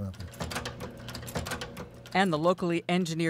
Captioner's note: machine stamping metal